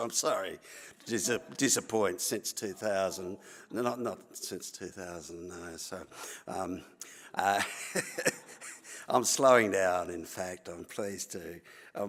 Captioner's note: laughter